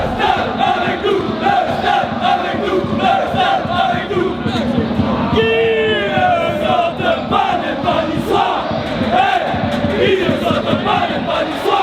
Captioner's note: OGC Nice fans chant